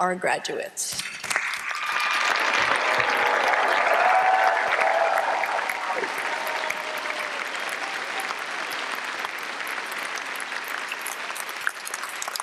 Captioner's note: applause and cheering